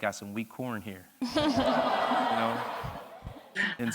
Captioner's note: audience laughs